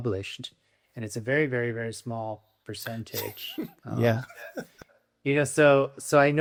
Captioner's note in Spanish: Riendo